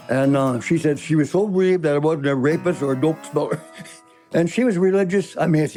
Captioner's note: laughing